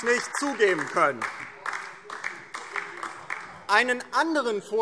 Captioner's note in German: Beifall DIE LINKE